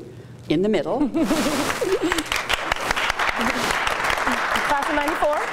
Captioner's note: applause